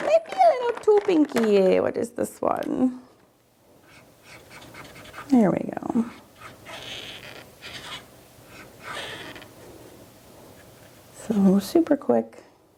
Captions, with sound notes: Maybe a little too pinky. What is this one? (marker scratching) There we go. So super quick.